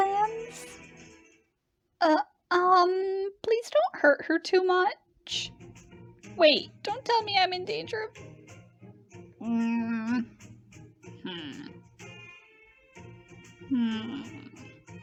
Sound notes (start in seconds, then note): 9.3 disapproving noise; 10.9 disapproving noises continue